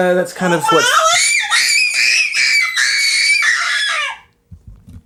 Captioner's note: shrieks in happiness